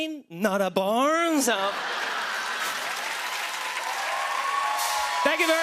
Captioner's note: laughter and applause